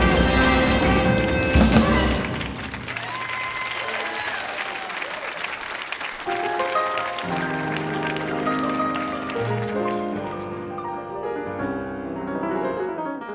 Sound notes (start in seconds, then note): 0.1 audience applauding; 3.3 audience cheering; 6.2 energetic piano music